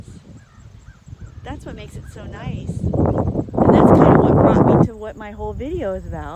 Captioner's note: wind drowns out voice